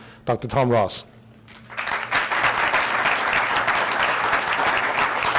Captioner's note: audience applauds